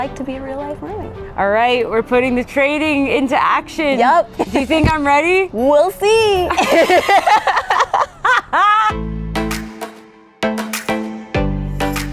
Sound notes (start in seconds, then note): 6.5 both laughing; 9.3 dramatic music